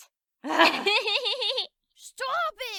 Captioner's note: giggles